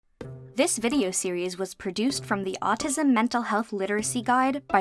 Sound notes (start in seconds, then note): 0.4 voice-over